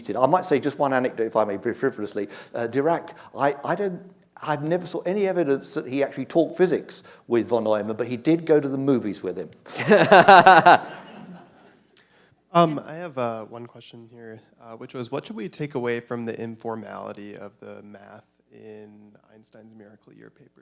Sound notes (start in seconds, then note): 9.7 laughter